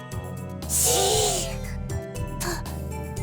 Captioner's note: shush